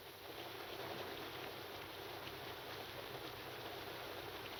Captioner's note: rain pattering